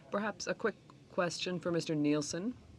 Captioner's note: speaking French